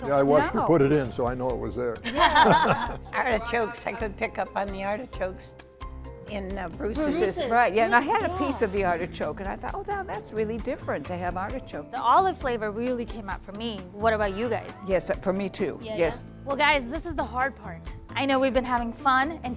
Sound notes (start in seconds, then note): 2.0 all laughing